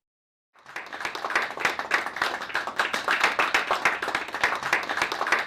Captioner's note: audience applauds